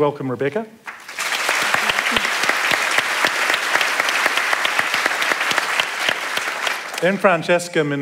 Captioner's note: applause